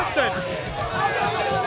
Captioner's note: crowd chatter